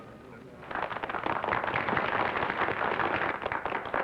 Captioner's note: applause